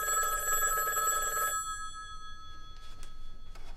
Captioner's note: phone rings